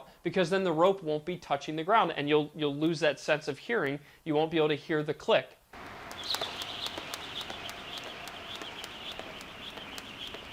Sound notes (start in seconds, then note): 5.8 rope whips and clicks